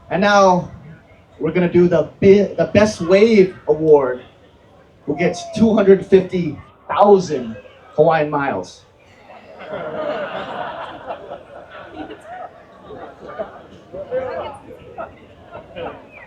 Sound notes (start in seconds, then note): 9.1 laughter